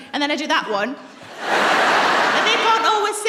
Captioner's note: laughter